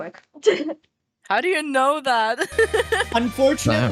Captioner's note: laughs; laughs